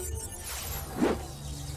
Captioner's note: whoosh